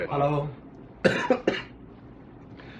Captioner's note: cough